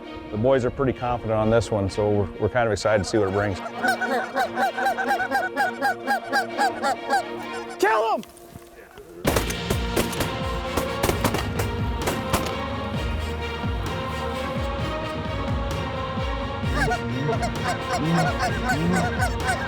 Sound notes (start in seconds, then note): 2.8 goose calls; 9.2 gun shots; 16.6 goose calls